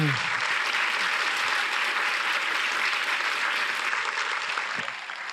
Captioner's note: audience applauding